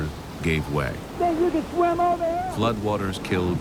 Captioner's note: man shouting